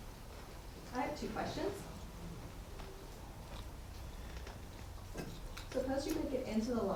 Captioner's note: attendee Through Translator